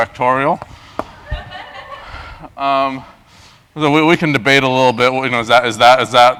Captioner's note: laugh